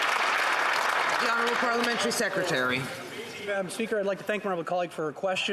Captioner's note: some Applause